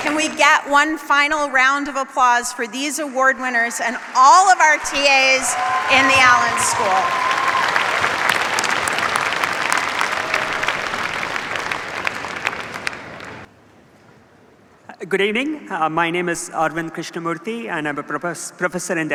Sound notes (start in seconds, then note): 7.3 cheers, applause